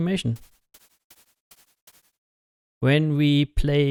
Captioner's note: footfalls